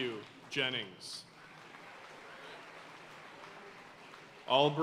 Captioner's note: audience cheering and applauding